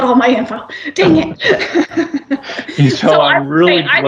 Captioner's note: laughs